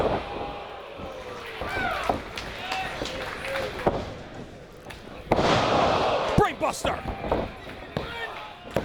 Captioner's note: applause